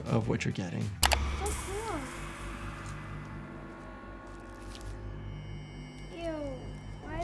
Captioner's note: computer mouse clicks